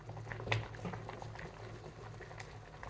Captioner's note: pan bubbling